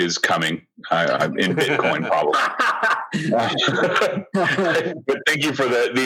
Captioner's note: laughter